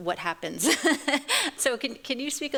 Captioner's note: chuckles